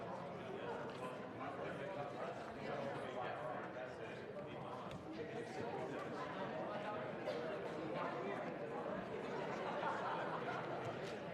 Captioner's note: conversation din